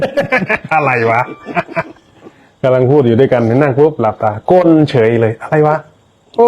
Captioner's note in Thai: เสียงหัวเราะ